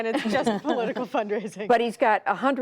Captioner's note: laughter